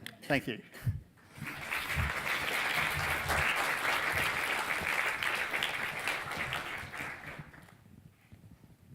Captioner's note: applause